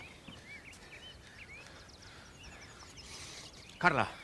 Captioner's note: breathing fast